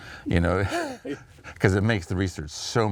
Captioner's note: chuckles